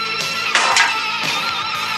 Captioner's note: clank